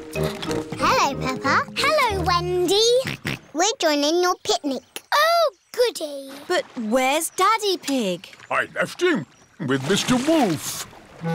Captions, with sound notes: -Hello, Peppa. -Hello, Wendy. (SNORTS) -We're joining your picnic. -Oh, goody. -But where's Daddy Pig? -I left him, with Mr. Wolf.